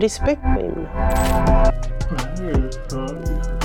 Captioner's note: speaking foreign language